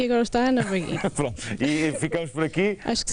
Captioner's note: laughter